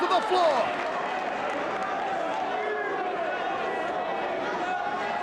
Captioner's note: audience applauds and cheers